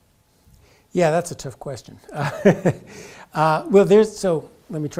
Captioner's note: laugh